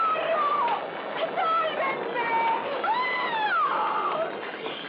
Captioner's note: screams